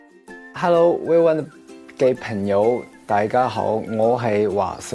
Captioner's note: speaks Cantonese